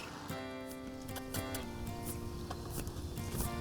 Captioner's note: squeaky kisses